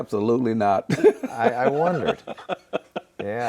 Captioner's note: laughing